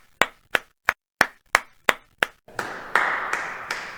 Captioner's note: clapping Sound Effect Number 2; clapping Sound Effect Number 3; real Clapping